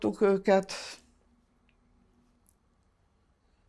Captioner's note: pauses 6 seconds